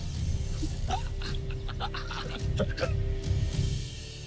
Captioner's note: enchanting chimes; giggles & chuckles; music fades